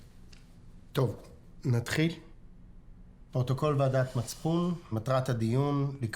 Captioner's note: speaking foreign language